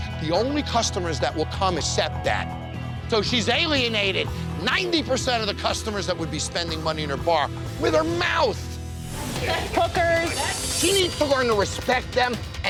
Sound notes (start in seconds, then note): none